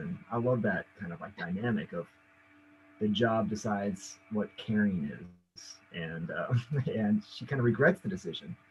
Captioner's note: chuckles